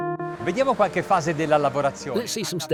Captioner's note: speaking in foreign language